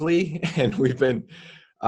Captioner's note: chuckles